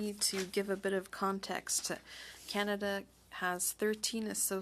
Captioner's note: speaking French